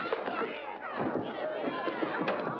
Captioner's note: thump